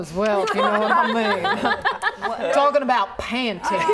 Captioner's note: laughing